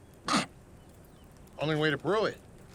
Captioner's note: Clive coughs